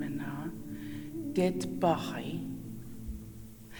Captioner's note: In Mi’kmaq